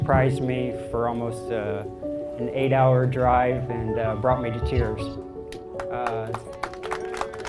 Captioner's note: big applause